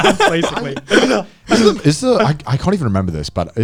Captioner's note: laughing